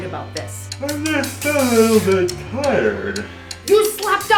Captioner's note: yawning